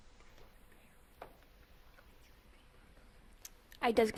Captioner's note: Central Hardin team whispering